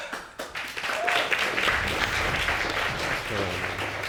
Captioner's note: audience applauding